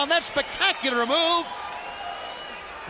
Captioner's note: crowd cheering